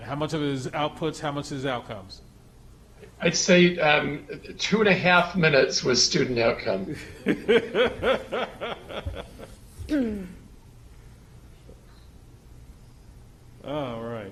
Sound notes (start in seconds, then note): 6.9 laughs